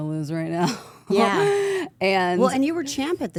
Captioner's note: AJ laughing